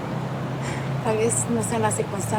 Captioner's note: exhaling